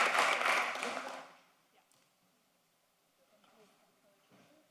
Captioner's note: applause